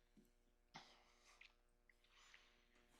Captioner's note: none